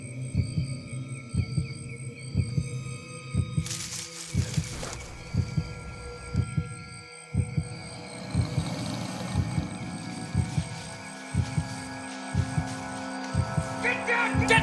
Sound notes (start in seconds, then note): 3.6 rustling; 7.4 growls